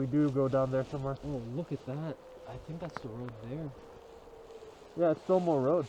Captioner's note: wolves howl